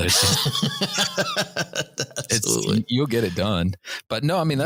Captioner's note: laughter